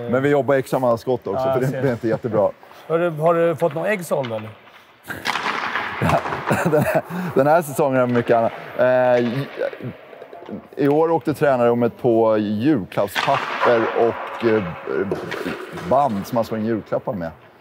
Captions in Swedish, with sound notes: Men vi jobbar extra med hans skott också. Det är inte jättebra. Har du fått några ägg sålda eller? (Skratt) Den här säsongen har det varit mycket annat… I år åkte tränarrummet på julklappspapper och band som man slår in julklappar med.